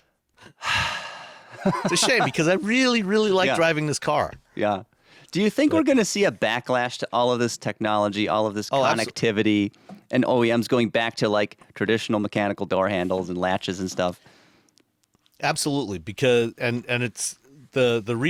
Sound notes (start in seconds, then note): 0.4 sighs; 1.5 laughing